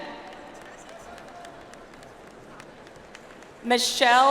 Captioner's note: audience applauds